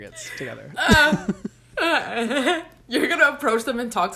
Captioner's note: both laugh